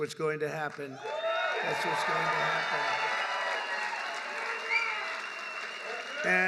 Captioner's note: applause